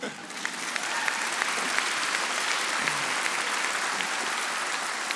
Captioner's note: audience applauding